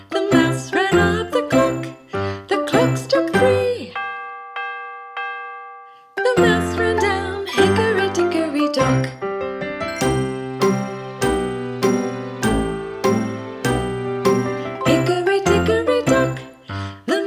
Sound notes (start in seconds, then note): 3.8 clock chiming; 9.4 upbeat piano music